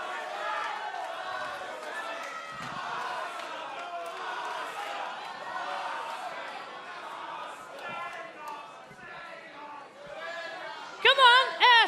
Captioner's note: fans chanting